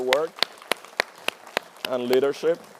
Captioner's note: applause